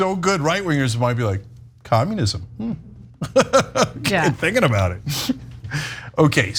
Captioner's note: laugh